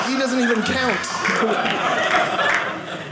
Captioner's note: audience laughing